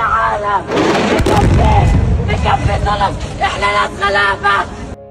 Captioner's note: sounds of the explosion, people screaming